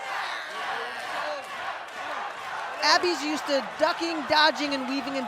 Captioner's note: fans chanting